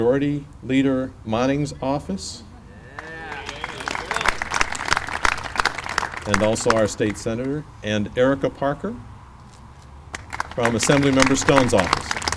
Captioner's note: clapping; clapping